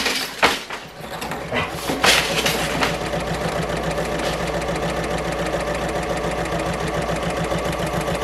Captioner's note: sewing Machine Sounds